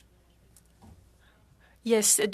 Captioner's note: speaking French